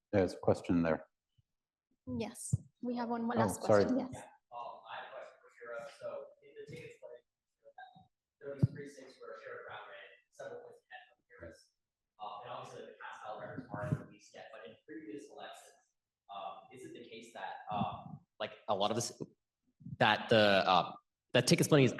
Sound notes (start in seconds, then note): 12.5 speaks faintly off mic